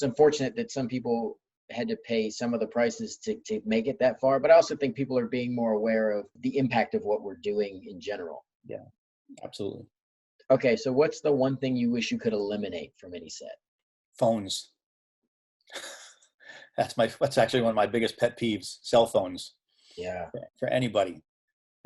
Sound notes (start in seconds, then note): 15.7 laughing